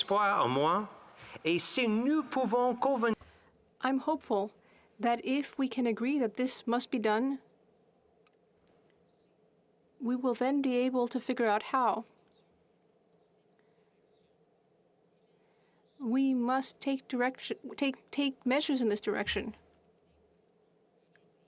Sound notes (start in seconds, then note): 5.3 speaking French